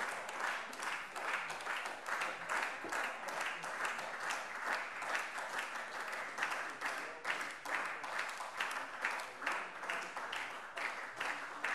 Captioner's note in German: Beifall SPD